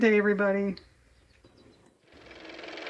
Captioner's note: car motor